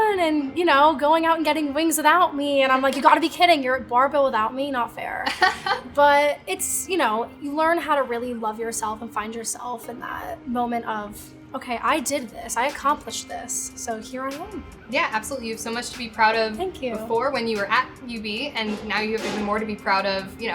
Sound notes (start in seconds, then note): 5.2 laughing